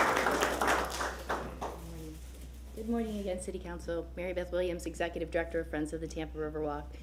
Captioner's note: applause